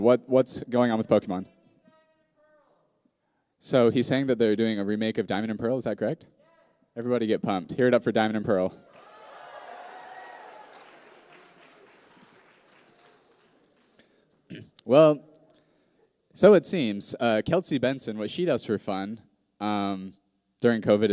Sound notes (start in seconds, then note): 8.8 cheers and applause